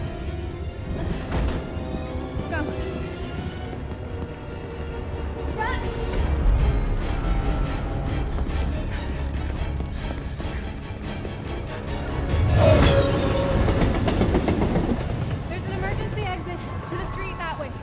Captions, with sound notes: Go. Run! (ALL PANTING) (TRAIN CLATTERING) There's an emergency exit to the street that way.